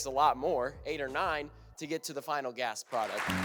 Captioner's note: audience applauds